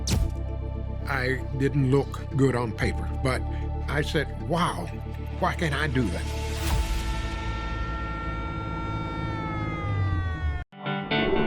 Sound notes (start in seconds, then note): 6.7 siren blaring